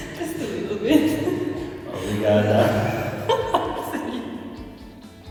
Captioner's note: in Portuguese